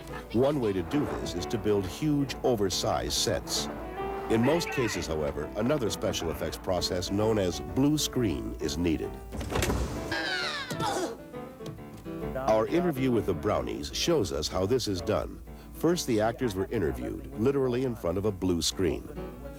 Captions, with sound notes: One way to do this is to build huge, oversize sets. in most cases, however, another special effects process known as blue screen is needed. [Yells, Grunts] Our interview with the Brownies shows us how this is done. First, the actors were interviewed, literally in front of a blue screen.